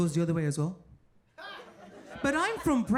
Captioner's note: audience laughing